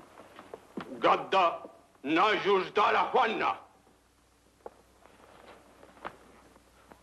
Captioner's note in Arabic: الكاهن يتكلم لغة أجنبية